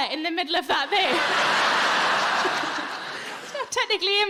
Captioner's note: audience laughing